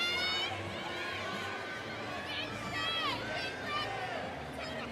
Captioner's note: audience cheering